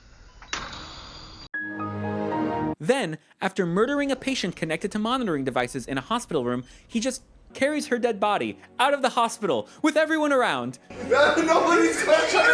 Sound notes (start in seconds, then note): 0.3 click, machines beeping; 1.4 Windows XP Shutdown Sound